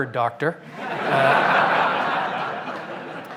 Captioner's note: laughter